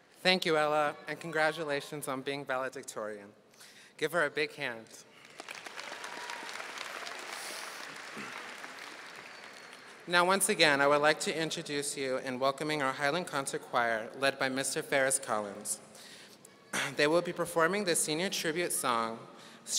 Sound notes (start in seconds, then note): 5.1 audience applauding